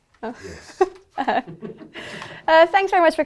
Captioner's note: laughs